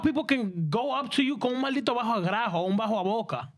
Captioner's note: speaking In Spanish